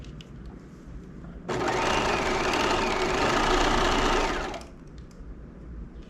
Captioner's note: sewing machine whirling